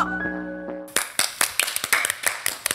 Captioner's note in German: Applaus